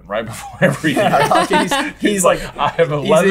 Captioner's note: laughter